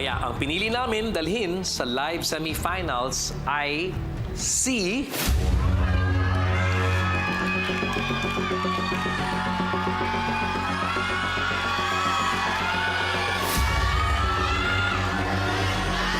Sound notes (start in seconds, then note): 5.1 suspenseful music playing; 5.5 applause, cheering